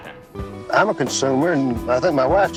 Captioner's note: soundbite of archived recording